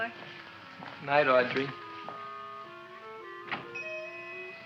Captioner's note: bell ringing